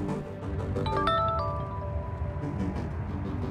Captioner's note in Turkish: Telefon çalıyor